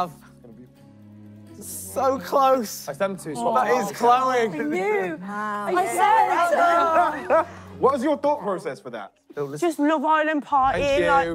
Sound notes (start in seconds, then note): 5.7 contestants laughing